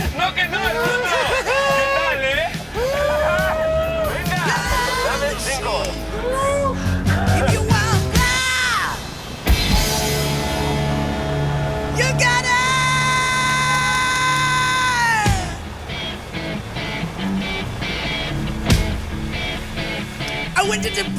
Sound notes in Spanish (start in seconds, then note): 6.2 Exclamación